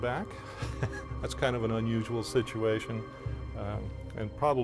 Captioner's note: laughs